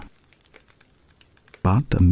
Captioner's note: fire crackling and night insects buzzing